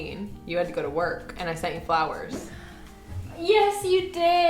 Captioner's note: air whooshing